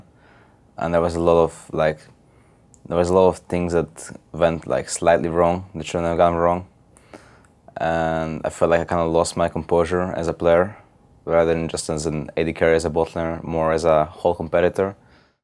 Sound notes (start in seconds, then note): none